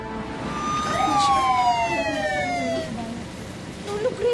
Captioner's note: police siren wailing